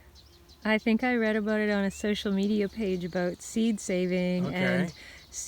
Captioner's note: woman's voice off-screen